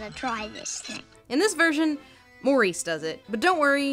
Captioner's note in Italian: voce fuori campo